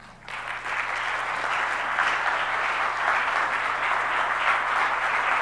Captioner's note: audience applauds